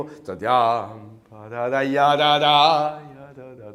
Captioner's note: hums